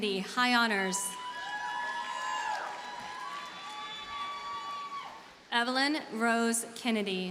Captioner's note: audience cheers and applauds